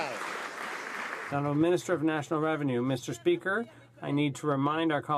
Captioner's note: some Applause